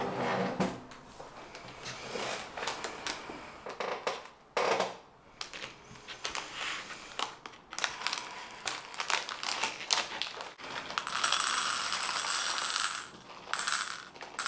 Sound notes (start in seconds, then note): 2.4 chair scrapes; 10.3 wrapper shuffles; 13.8 Skittles rattle